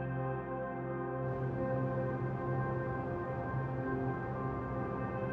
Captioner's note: wind blowing